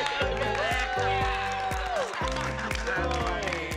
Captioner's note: cheering